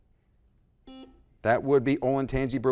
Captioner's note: buzzer blaring